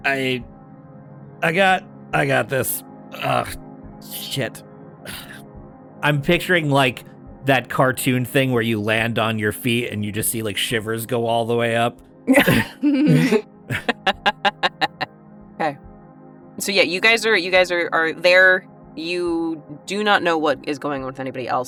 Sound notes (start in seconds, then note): 13.7 EVERYONE chuckles